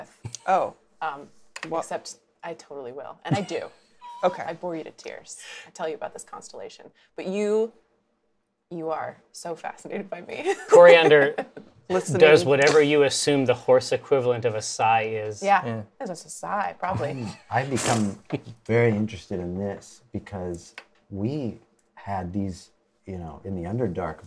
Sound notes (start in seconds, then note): 3.3 laughs; 10.5 laughs; 18.0 sighs like a horse